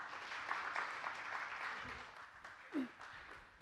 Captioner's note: applause